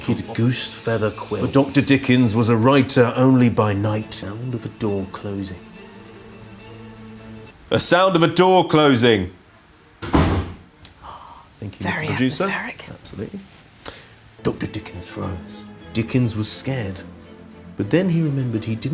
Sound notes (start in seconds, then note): 10.0 door thuds; 11.0 gasps